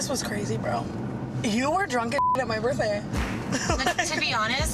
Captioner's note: beep; laughs